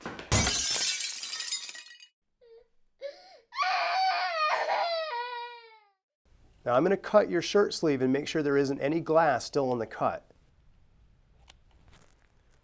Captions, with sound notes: [Loud noise, shattered glass] [Crying] Now I'm gonna cut your shirt sleeve and make sure there isn't any glass still in the cut.